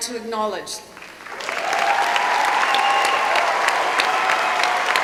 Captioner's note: applause